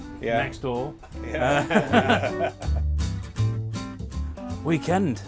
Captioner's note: laughs